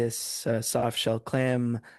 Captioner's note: speaking French